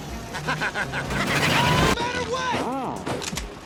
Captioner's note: maniacal chuckle